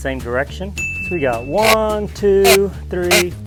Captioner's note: ding